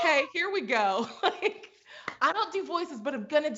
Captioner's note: laughs